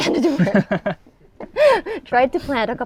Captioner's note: laughs